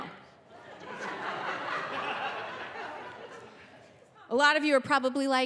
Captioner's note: audience laughing